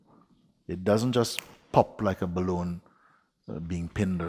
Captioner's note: snaps fingers